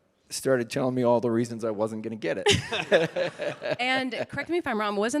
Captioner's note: laughs